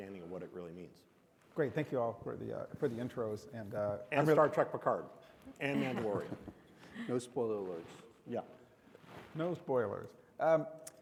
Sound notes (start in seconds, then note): 5.8 audience and panelists chuckle